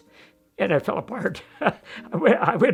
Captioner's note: laughs